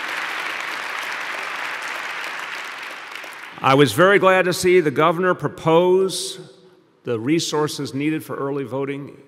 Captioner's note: applause